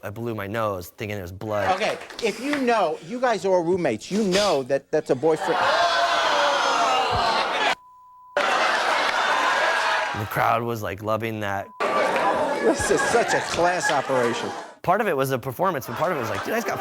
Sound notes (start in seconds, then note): 6.0 audience exclaiming